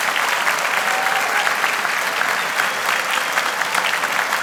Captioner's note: applause continues